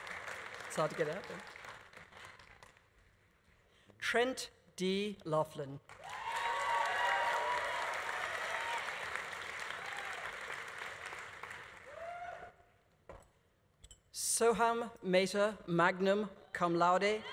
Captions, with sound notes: It's hard to get out. Trent D. Laughlin. (audience applauding) (audience cheering) Soham Mehta, magna cum laude.